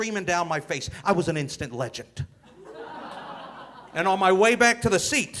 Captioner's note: audience laughing